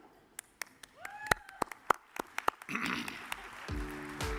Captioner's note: audience cheers and applauds; gentle music